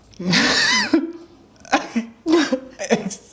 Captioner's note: both laugh